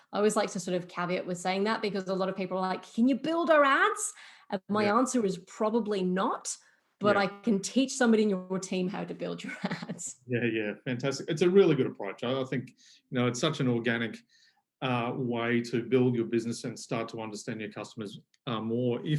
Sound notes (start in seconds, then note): 9.4 laughs